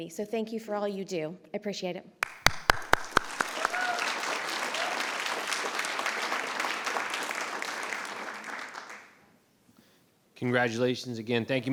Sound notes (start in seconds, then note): 2.2 audience cheers and applauds